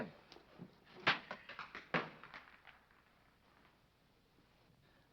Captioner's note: rock clanking